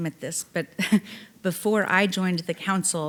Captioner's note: chuckling